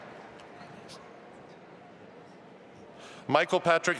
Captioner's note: assistant speaking faintly